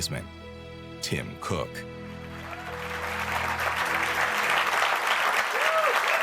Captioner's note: audience clapping